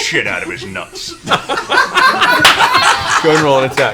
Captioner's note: laughter